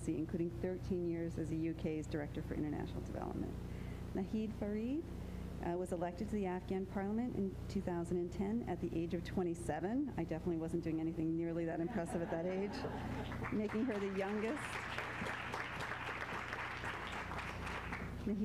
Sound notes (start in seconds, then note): 11.8 laughter; 13.2 applause